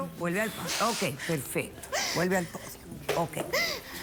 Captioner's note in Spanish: Sollozos